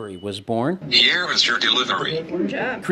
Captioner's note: tablet Voice